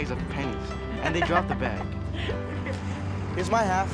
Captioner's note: laugh